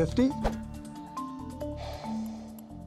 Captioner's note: sighs